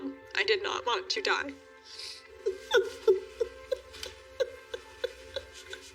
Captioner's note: grunting and crying